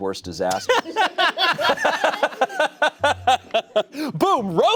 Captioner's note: everyone laughs